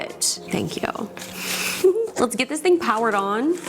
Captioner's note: chuckles